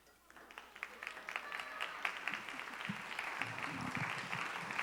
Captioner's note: audience applauding